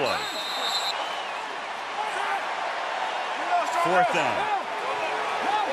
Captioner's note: whistle